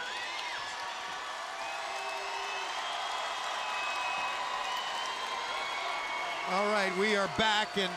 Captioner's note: crowd cheering